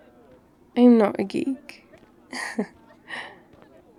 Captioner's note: laughs